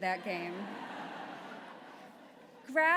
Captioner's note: laughter